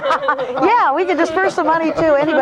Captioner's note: all laughing